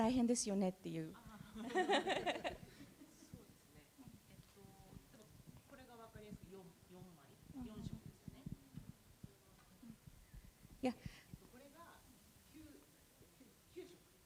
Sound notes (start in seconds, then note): 1.4 laughter; 2.8 speaking japanese